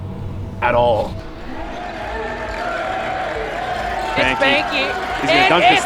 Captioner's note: crowd cheering